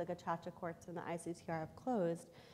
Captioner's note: foreign language